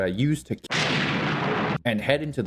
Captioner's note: thunder